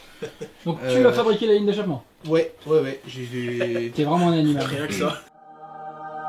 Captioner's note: laughs